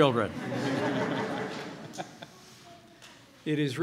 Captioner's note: laughter